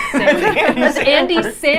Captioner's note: laughing